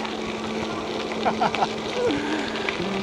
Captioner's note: laughing